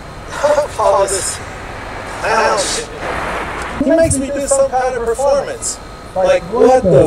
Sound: laughing

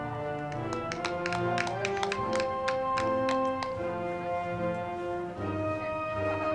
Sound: crowd clapping; band music

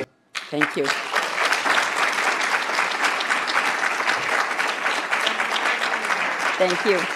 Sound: audience applauds

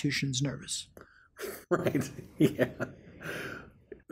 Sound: laughs

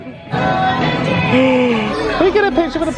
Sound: upbeat music; gasps

